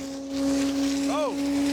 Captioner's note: grinder whirring